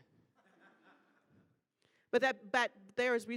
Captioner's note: audience laughing